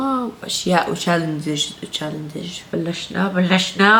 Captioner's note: stutters